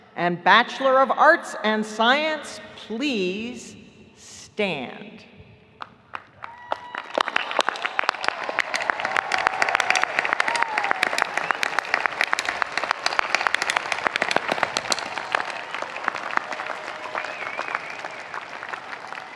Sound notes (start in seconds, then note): 6.0 audience applauding; 6.0 audience cheering